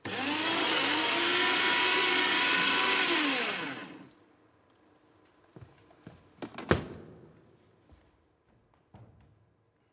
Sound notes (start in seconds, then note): 0.0 shredder buzzing